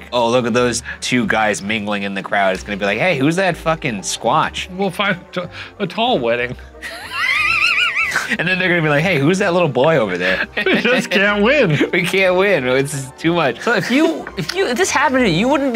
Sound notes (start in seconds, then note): 6.8 laughing